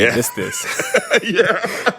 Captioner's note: laughter